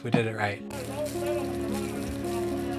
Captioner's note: upbeat music; murmurs; water rippling